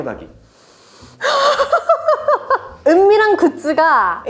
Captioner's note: laughs